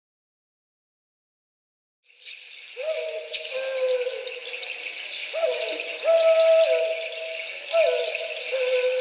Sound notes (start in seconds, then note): 2.9 animals hooting